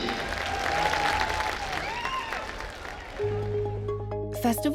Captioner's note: crowd cheering and applauding; mysterious music